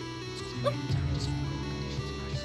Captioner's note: yelp